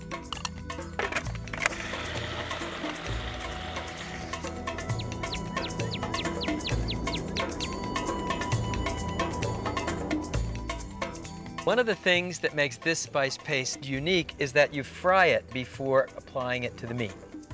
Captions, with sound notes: (food processor grinding) (calm flute music) (birds chirping) One of the things that makes this spice paste unique is that you fry it before applying it to the meat.